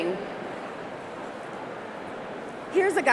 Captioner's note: none